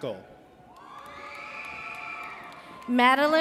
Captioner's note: audience cheers